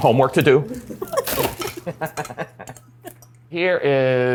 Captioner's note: family laughing